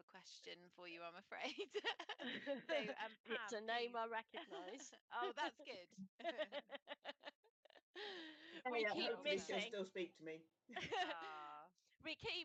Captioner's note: laughter